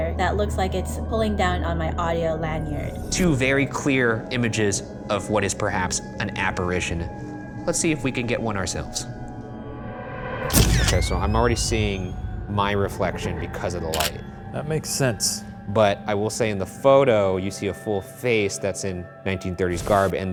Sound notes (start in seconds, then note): 10.7 camera shutter clicks